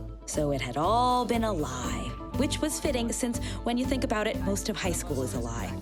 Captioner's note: none